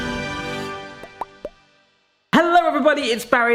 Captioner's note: logo popping